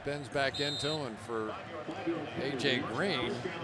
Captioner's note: whistle